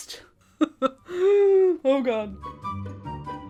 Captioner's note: chuckles; bright music